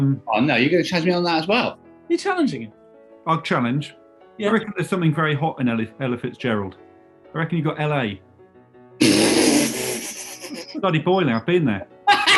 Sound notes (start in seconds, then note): 9.9 spluttering laughter; 12.0 laughing